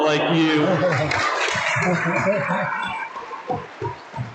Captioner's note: audience applauds